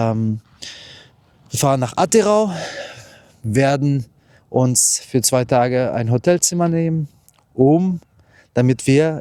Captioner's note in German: seufzt